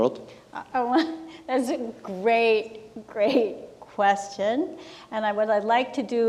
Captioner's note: laughs